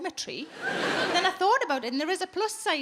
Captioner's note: audience laughs